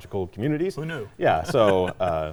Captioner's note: laughing